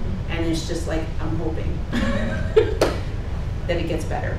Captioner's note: laughs